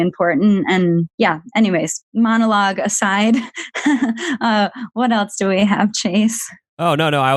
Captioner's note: laughs